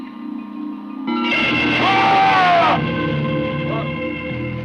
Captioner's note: screams